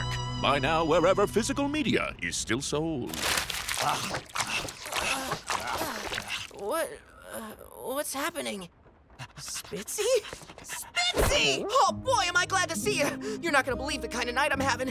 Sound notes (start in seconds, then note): 3.6 groaning